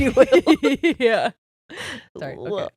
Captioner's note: giggles quickly